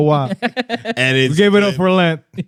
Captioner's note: laughing